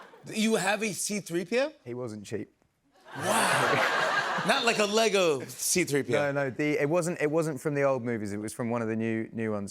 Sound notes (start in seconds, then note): 3.0 laughter